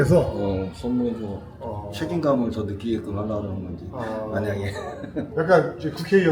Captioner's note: laughter